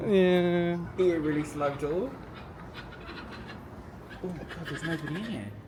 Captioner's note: door squeaks